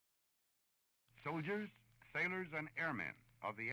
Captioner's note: General Eisenhower voiceover